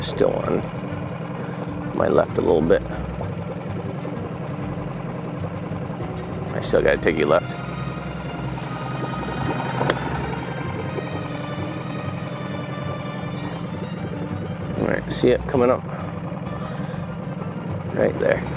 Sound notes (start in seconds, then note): 3.3 boat spluttering; 3.3 dramatic music